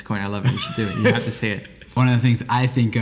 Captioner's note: laughs